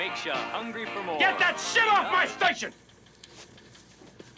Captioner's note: turns radio off